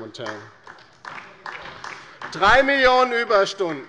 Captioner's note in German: Beifall bei der LINKEN